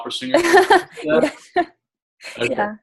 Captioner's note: laughs